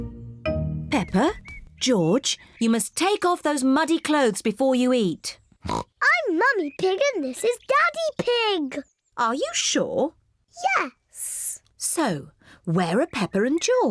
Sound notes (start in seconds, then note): 5.6 oinks